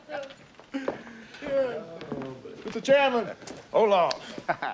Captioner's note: laughing